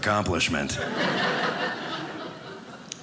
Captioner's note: audience laughing